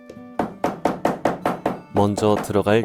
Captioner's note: hammering sound